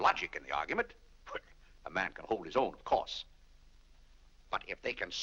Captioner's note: laughs